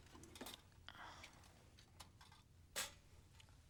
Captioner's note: whispering